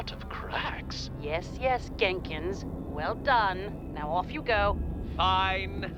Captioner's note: impatiently